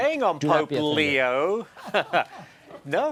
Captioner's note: laughter